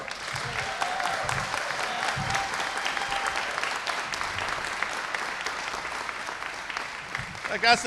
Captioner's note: applause